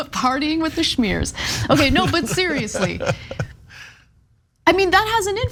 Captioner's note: laugh